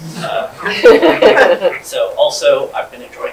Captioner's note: audience laughing